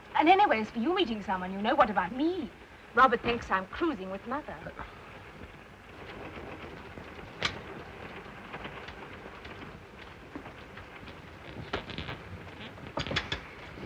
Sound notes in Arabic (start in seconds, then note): 5.7 صوت خشخشة القطار; 7.3 يُفتح الباب; 9.1 صوت خشخشة القطار